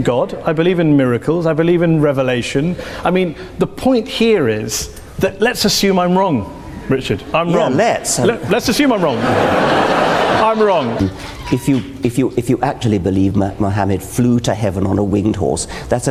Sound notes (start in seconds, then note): 10.6 audience laughs